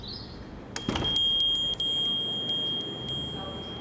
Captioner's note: bell ringing